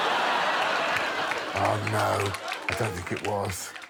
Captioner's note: all laughing